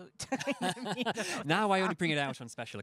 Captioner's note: laughing